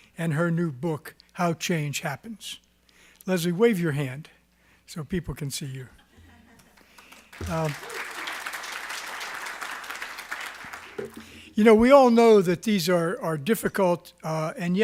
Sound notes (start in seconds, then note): 6.7 applause